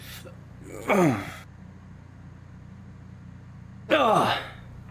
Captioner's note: Charles groans